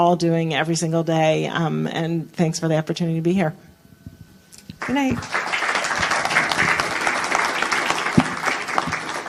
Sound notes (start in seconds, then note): 4.8 applause